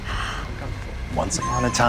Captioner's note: gasping